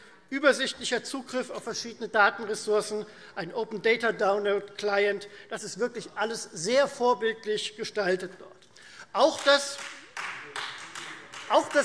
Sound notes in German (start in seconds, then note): 9.2 Beifall Freie Demokraten